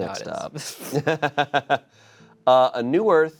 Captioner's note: laughs